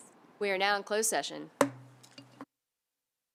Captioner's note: gavel hitting dais; silence